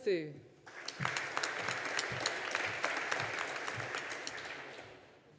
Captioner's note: audience applauding